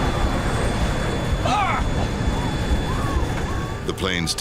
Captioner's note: pilot yells